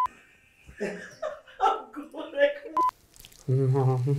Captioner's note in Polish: śmiech całej ekipy